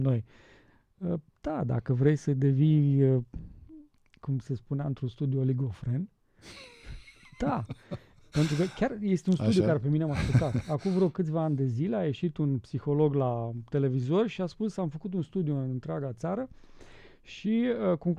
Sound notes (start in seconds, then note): 10.0 laughter